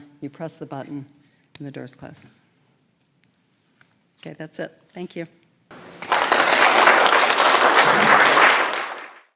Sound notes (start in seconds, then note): 5.7 audience applauding